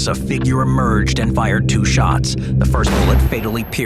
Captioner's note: gun fires